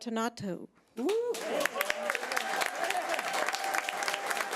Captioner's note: audience applause